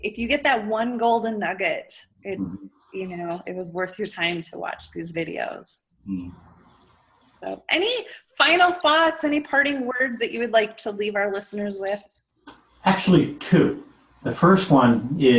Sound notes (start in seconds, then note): 6.0 mmm